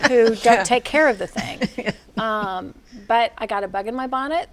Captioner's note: all laughing